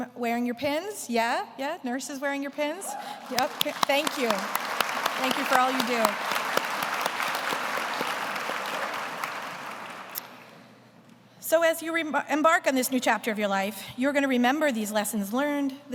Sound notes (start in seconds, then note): 4.5 everyone applauds; 7.8 everyone continues applause